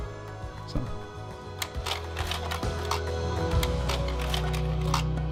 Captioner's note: projector clicks